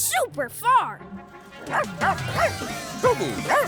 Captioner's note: barking